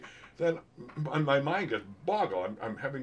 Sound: tapping

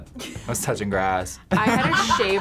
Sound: laughs

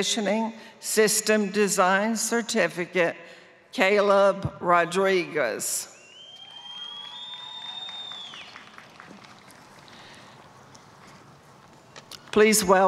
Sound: applause

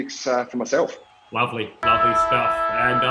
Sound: siren

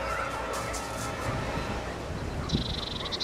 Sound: dogs barking

